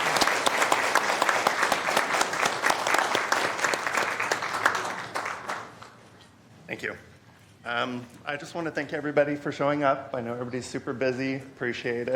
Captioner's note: applause